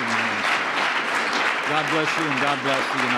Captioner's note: applause